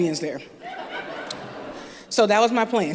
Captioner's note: laughter